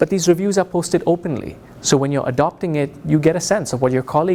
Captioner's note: none